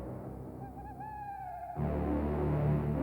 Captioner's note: owl hoots